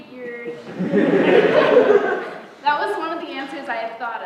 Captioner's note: laughter